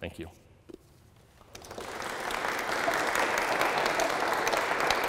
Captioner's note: applause